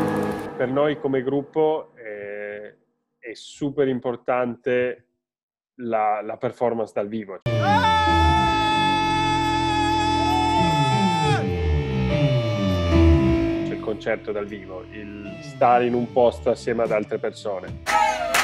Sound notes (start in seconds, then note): 9.9 guy shouting